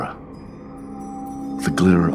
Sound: chiming

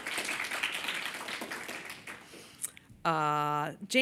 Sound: applause

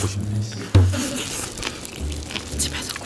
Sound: slurp

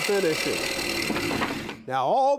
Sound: wood whooshes

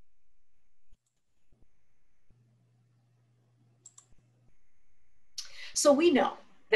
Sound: silence

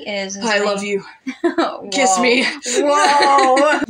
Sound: laugh

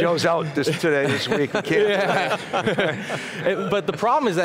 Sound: laughter

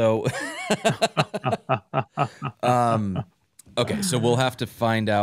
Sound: laughter

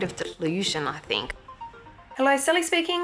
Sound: phone rings

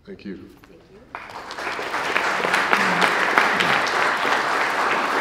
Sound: applause

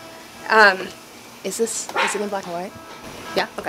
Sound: whispers

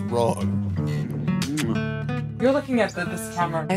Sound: kiss

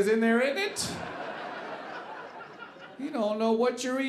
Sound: audience laughing

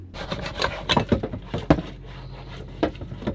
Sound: scrubbing

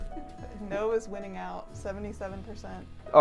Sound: laughs

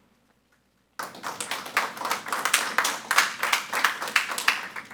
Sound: audience applauding

